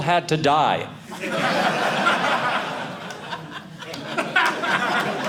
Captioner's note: audience laughing